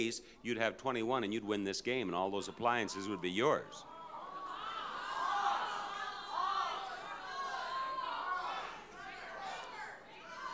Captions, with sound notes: you'd have 21 and you'd win this game and all those appliances would be yours. (audience shouting)